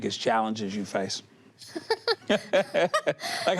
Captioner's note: both laugh